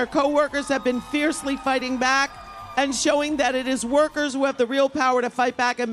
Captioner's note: applause